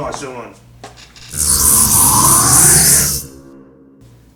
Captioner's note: spacey sound